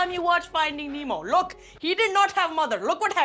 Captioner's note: in Indian accent